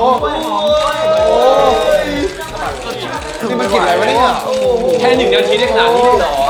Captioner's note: enthusiastically cheering